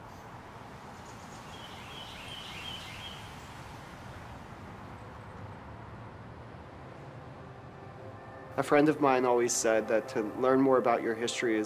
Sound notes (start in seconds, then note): 0.9 birds chirping